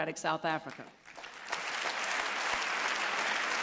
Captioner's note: applause